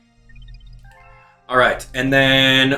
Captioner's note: game chimes